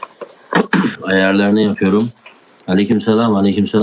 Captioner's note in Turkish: boğazını temizler